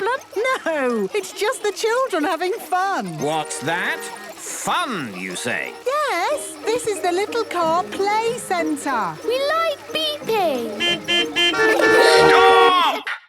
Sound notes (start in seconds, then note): 10.3 horns beeping